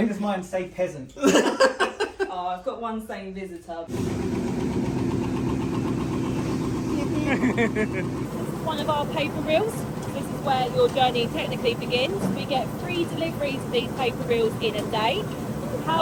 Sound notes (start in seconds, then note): 1.2 laughing; 4.1 machine whirring; 7.2 laughing